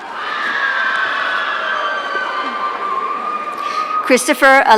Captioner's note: audience cheering